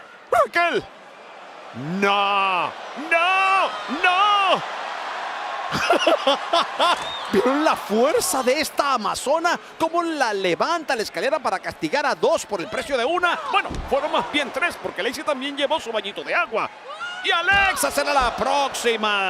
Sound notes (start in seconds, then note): 5.7 laugh